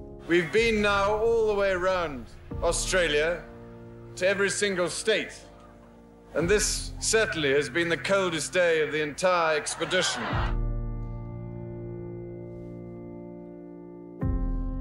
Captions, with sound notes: - We've been now all the way around Australia to every single State. And this certainly, has been the coldest day of the entire expedition. (crowd laughing) (light classical music)